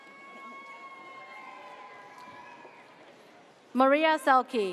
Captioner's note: audience cheers